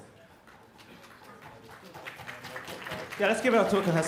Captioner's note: applause